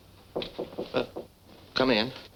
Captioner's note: knocking